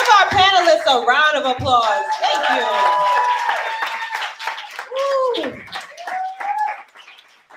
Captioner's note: applause